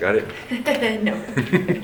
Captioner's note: laughs